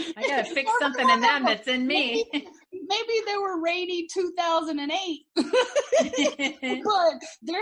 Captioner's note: laughing; laughing